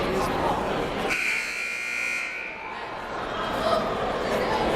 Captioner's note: buzzer blares